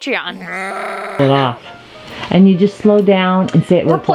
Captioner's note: goat Sound